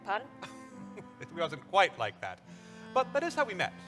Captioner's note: chuckles